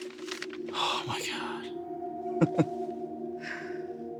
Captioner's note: chuckles